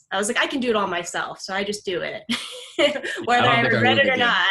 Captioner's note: laughs